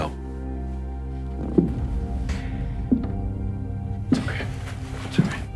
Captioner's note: loud footsteps